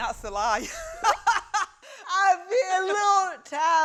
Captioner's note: laughs